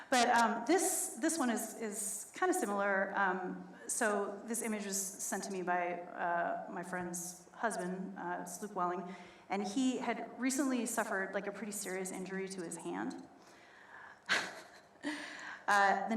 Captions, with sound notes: But this one is kind of similar. So, this image was sent to me by my friend's husband, it's Luke Welling, and he had recently suffered a pretty serious injury to his hand. (laughs)